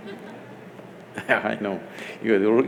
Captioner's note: laughs